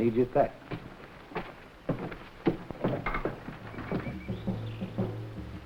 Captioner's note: footsteps echoing; animals chattering